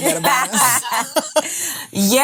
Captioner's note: women laughing